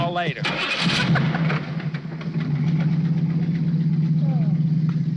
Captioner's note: car engine revving; all laughing